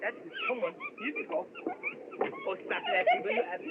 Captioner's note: giggling